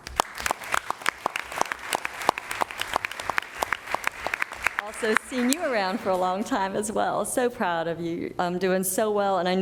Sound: applause

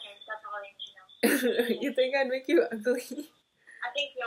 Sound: laugh

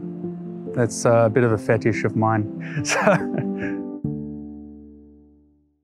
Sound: laughs

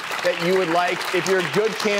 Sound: clapping

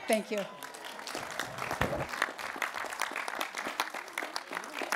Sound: applause

